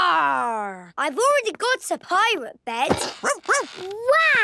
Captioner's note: barking